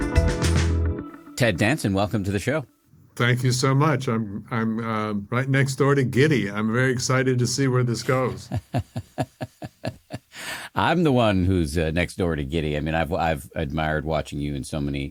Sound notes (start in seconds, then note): 0.0 upbeat music; 8.2 laughing